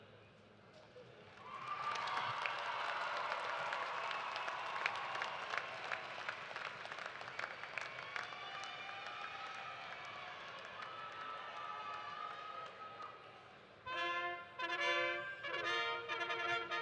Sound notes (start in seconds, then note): 5.6 cheers and applause